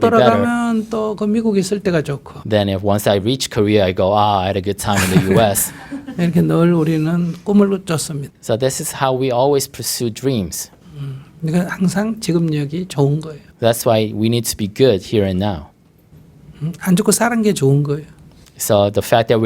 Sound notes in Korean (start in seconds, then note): 4.9 스님/청중 웃음